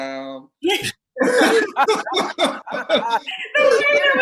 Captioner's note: laughing